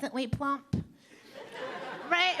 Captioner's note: audience laughing